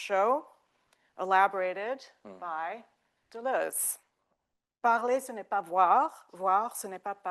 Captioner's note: speaking French